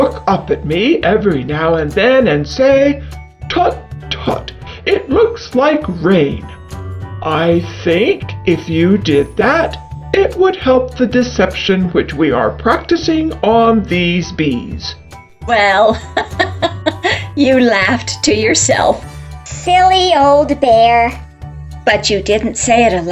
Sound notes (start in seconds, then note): 15.9 giggles